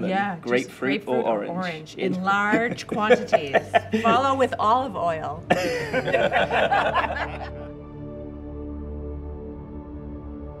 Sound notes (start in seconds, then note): 5.5 group laughs; 7.6 gentle music